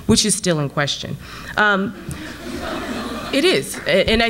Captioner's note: audience laughs